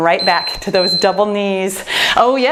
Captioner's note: timer beeps